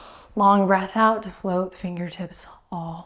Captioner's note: none